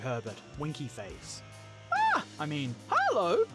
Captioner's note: screams